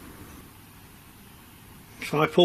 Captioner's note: none